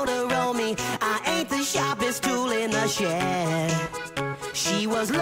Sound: hAhh!

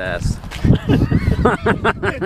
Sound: laughter

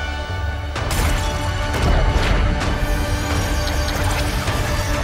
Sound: glass shattering; intense music

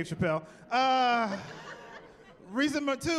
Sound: laughing

